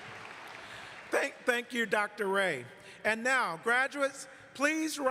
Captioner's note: applause